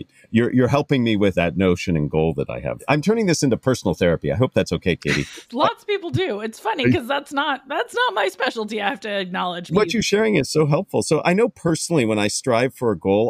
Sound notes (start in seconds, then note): 4.8 laugh